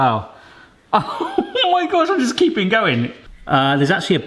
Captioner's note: exclaiming